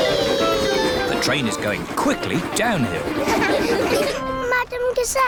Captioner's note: laughter